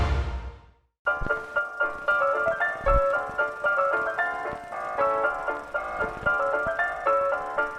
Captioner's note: uptempo ragtime music; film reel catling